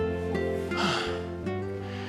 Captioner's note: sigh